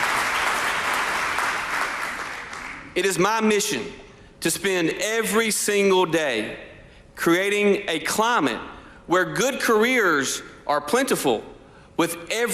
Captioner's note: applause